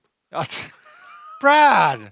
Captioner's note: laughs